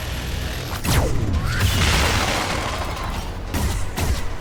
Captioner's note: laser blasting; dramatic music